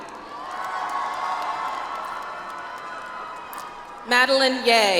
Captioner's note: audience applauds